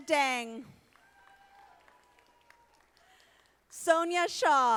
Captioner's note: audience applauding